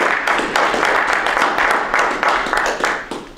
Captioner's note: audience applause